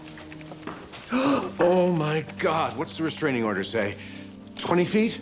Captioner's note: gasps